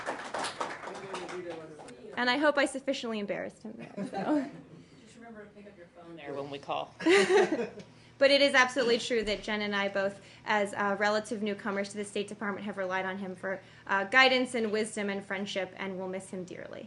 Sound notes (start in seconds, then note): 0.0 applause; 3.8 laughter; 7.0 laughter